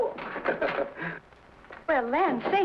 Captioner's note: Pat chuckles